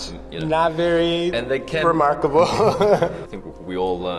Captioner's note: both chuckling